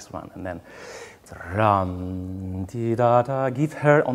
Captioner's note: hums